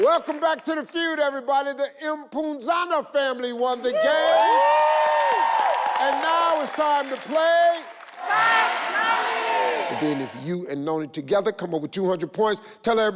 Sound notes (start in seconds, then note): 3.9 crowd cheering